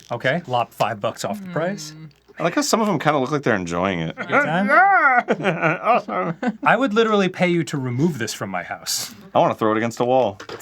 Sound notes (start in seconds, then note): 4.1 strained laughter